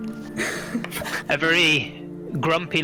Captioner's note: nervous laughter